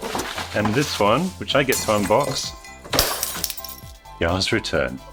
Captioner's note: glass shattering